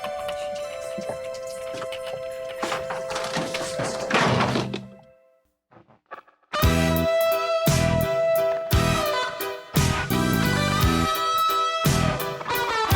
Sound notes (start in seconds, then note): 0.0 gentle music; 4.5 drawer thudding; 6.5 blues music